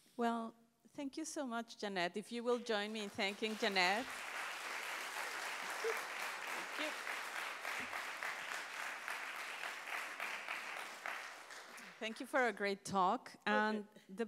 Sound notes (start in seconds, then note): 4.0 audience applauds; 7.1 applause continues